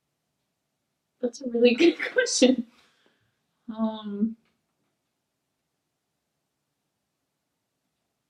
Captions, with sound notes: That's a really good question. (laughs)